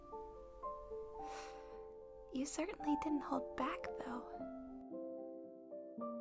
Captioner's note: hisses